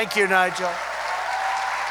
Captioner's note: applause